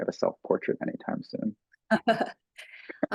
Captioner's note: laughing